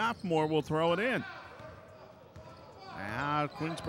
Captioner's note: ball pounding